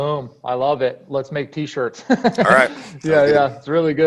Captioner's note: laughs